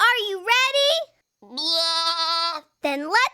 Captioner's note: bleating